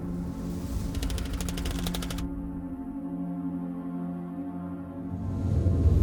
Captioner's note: tense ambient music; text clicking